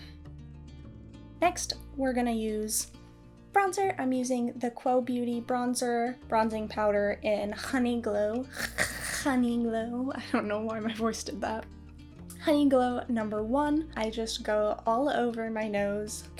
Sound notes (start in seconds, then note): 8.5 repeats gutteral H sound